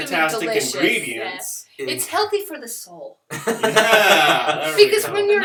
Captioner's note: laughter